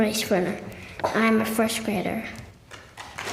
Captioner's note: applause